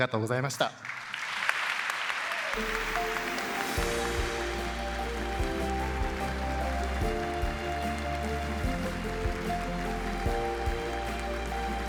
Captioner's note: applause